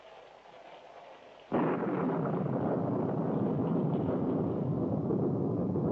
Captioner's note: thunder Rumbling